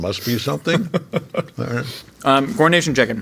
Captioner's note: laughing